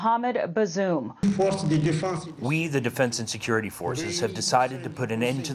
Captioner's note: through translator